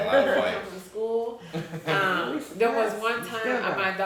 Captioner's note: chuckles